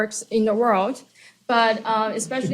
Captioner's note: laughter